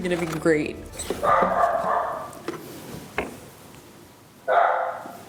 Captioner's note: dog barking